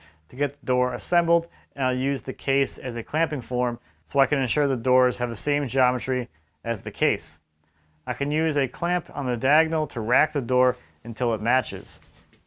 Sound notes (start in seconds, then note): none